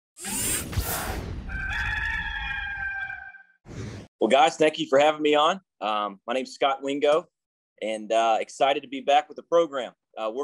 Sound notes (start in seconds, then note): 0.2 robotic swishing; 1.4 rooster crows